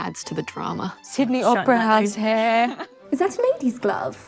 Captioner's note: laughing